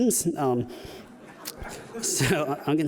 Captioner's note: audience laughing